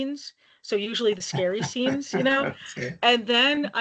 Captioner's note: laughing